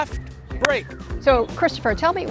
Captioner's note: hands clap